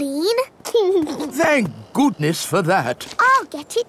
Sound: giggles

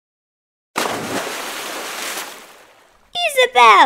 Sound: splash

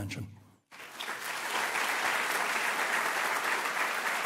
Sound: applause

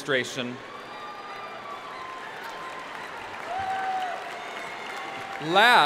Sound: audience cheering and applauding

